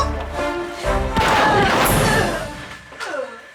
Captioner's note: gun fires